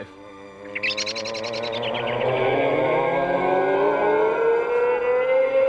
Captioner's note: scary Moaning